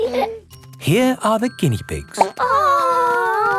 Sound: laughing; plop

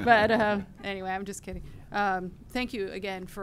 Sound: laughter

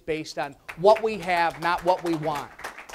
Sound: audience applause

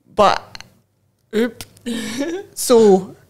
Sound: laughs

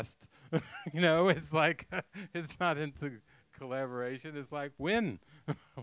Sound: laughing

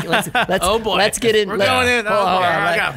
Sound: laughter

